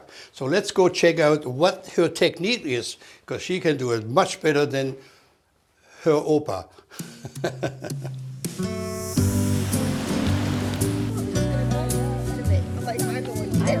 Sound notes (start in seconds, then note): 7.0 laughing